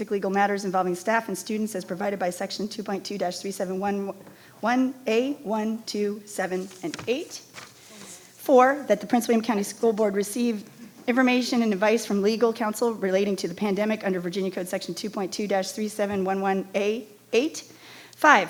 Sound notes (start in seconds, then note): 6.4 paper rustling